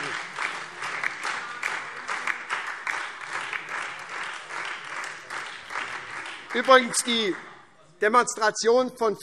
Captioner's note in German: Beifall SPD, Freie Demokraten und die DIE LINKE